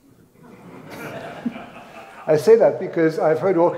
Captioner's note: audience laughs